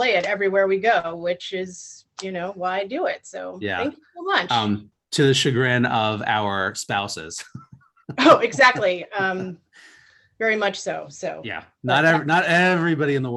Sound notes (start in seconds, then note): 8.0 laughs